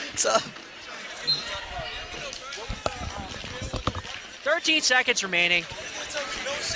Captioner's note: laughs